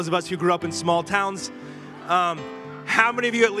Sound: congregation laughing

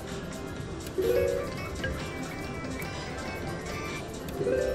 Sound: machine beeps

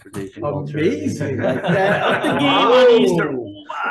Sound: light laughter

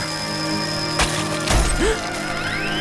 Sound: gasping

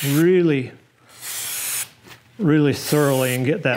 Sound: spraying

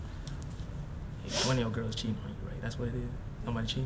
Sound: Bryan sniffles

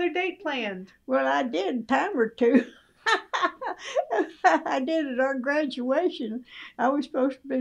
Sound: laughs

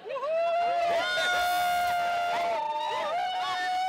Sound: students whooping

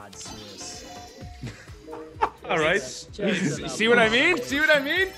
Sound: laugh

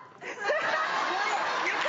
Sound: crowd laughs

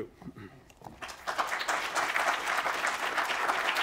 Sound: applause

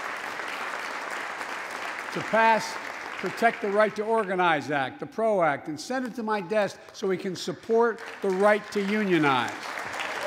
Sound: applause

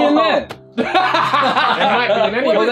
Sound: all laughing

